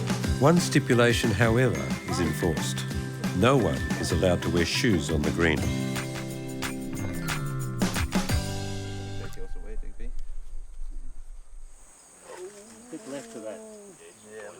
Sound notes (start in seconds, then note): 12.5 moaning